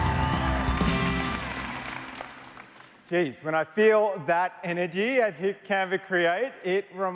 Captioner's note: applause